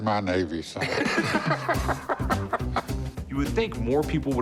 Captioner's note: laughter